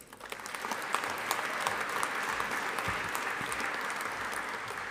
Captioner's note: audience applauding